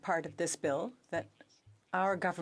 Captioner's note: speaking French